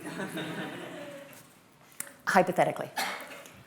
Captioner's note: laughter